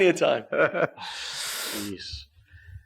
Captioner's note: laughs